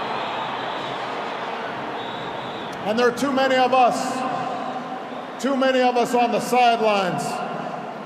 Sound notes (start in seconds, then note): 2.0 applause